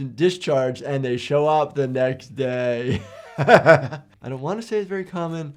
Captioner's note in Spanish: risas